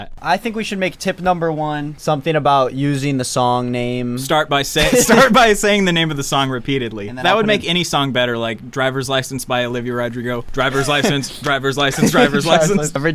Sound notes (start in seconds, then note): 4.8 laughs